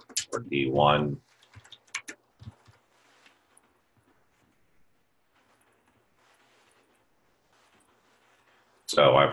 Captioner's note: typing Sounds